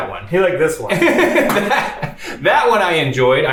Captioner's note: laughs